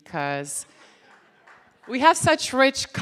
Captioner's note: laughter and clapping from audience